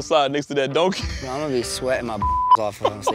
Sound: laughs; beep

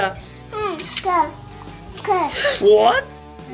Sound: picture snapping

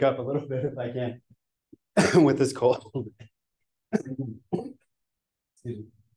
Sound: coughs

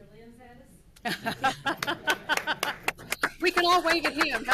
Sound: loud laughter

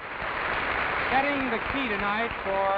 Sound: audience applauds

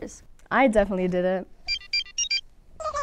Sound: phone rings

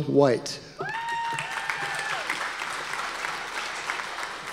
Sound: audience applause

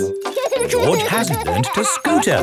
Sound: george laughing

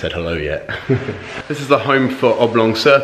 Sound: speaker chuckles

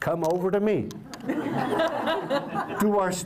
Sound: laughter

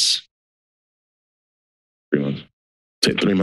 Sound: silence

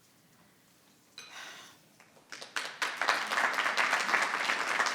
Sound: audience clapping

